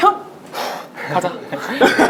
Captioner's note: exhaling